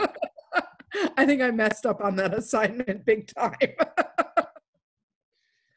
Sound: laughs

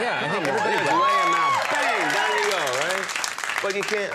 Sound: audience applauding

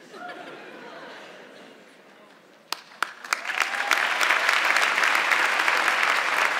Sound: audience clapping; laughing

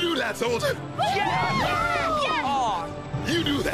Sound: Gopher Campers Cheering

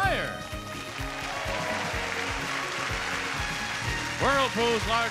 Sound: audience applauding

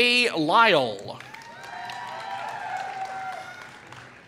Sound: applause

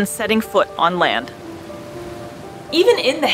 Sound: background music; quiet rainfall sound

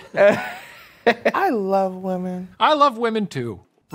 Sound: laughs

